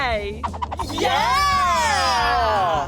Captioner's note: the Giggles